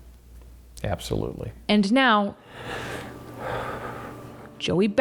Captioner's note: breathes deeply